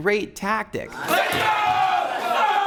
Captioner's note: screaming